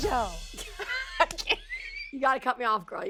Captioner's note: laughs